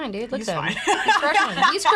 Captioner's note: laughing